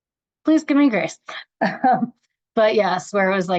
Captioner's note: chuckles